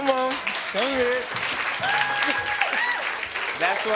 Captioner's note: audience applauding